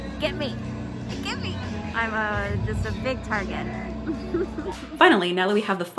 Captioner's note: laughs